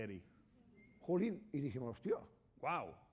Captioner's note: speaking spanish